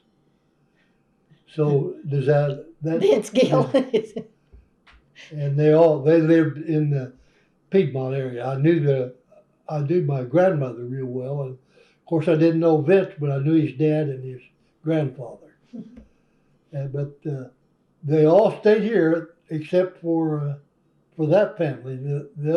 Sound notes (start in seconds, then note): 5.2 laughs